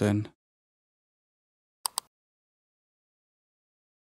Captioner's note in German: Klicken